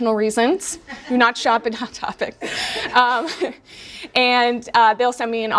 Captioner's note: laughs